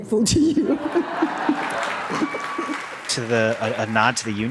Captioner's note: audience cheers